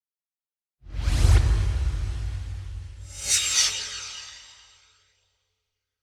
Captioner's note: swoosh